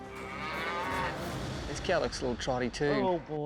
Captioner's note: mooing